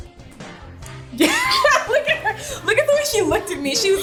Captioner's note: laughs